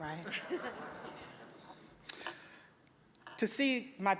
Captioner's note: audience giggling